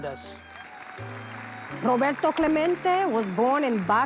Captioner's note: audience applause